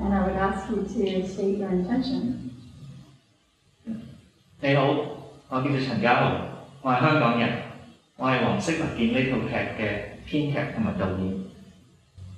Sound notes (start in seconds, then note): 4.6 speaking in Cantonese